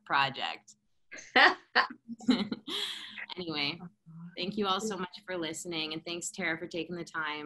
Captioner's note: laughter